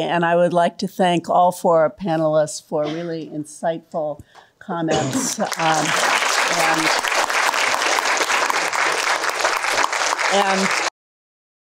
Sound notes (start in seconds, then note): 5.2 applause